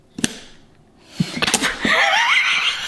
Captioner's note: carrot snaps; both laugh